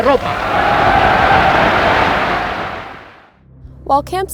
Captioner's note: audience cheering